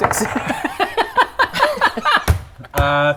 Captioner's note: immature giggles